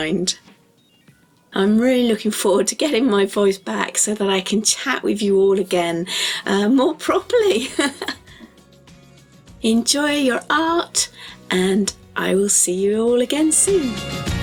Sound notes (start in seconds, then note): 7.2 laughing